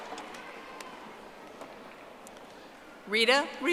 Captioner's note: audience applauding